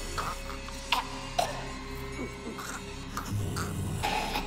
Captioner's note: Martha choking